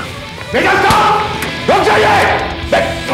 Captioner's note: Shouting